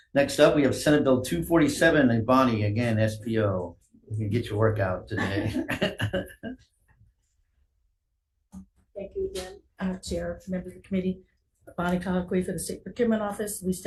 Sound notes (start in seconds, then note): 5.1 chair laughs